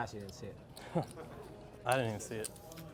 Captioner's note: chuckles